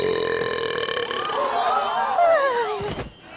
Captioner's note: burp; shocked cries from the crowd